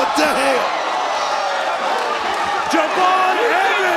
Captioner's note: crowd cheers